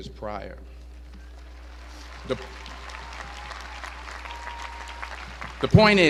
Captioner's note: applause